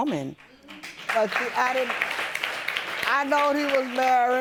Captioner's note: audience applauding